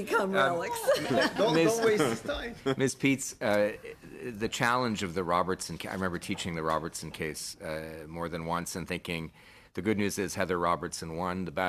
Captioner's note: laughing